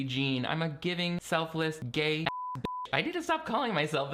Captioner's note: beeping